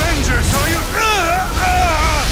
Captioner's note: groans